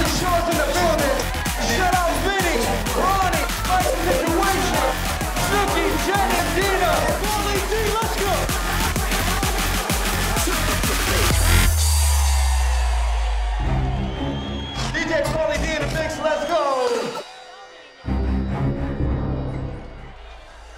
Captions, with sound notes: - Jersey Shores's in the building. Shout out Vinny, Ronnie, Mike the situation, Snooki, Jenny, Deena, Pauly D, let's go. (dance music) (crowd cheering) DJ Pauly D and the mix, let's go. (tense music)